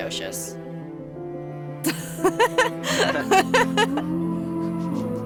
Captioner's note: laughter